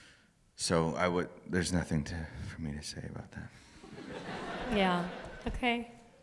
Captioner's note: laughter